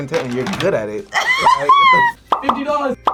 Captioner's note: laughs